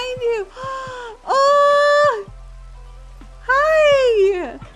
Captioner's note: gasp